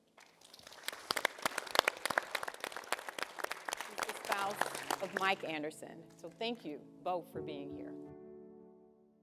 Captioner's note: applause